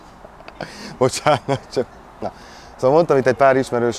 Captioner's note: chuckes